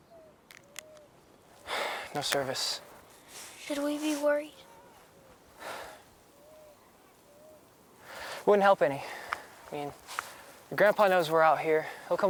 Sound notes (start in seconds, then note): 1.6 sighs; 5.6 Jack sighs